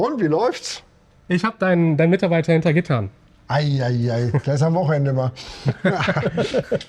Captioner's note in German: gelächter